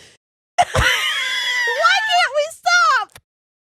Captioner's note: laughing